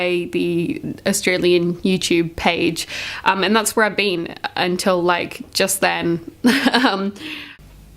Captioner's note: laughs